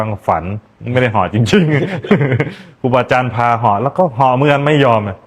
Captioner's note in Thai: เสียงหัวเราะ